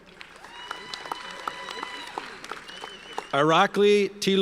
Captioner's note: audience cheers and applauds